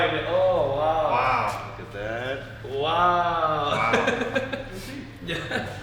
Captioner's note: laughing